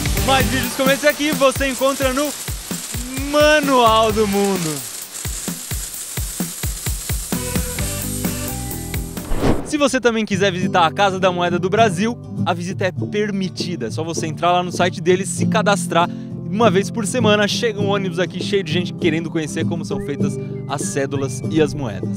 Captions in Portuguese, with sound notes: Mais vídeos como esse aqui você encontra no Manual do Mundo. (barulho de moedas caindo) Se você também quiser visitar a Casa da Moeda do Brasil, a visita é permitida. É só você entrar no site deles e se cadastrar que uma vez por semana chega um ônibus aqui cheio de gente querendo conhecer como são feitas as cédulas e as moedas.